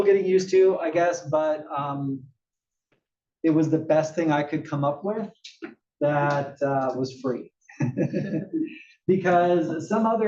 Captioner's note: laugh